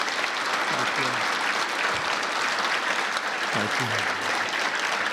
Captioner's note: applause